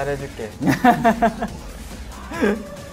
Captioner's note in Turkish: Gülüşmeler